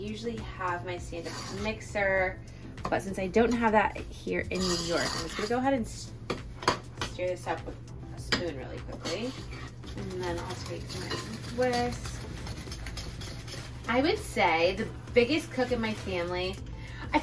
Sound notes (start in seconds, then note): 12.2 quiet upbeat music; 12.2 whisk grating